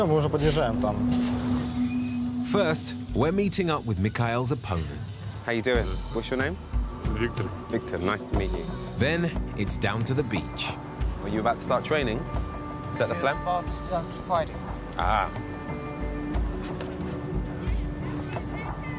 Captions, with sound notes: First, we're meeting up with Mikhail's opponent. How are you doing? What's your name? - Victor. - Victor, nice to meet you. Then it's down to the beach. Are you about to start training? Is that the plan? (speaking in foreign language) Ah.